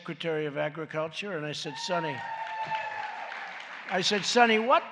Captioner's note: applause